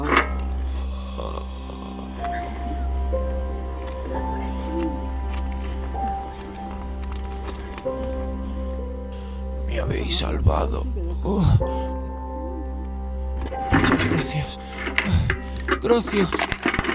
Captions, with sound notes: (Groan) You saved me. (Groan) Thank you very much.